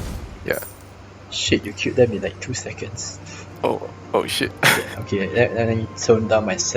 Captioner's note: chuckles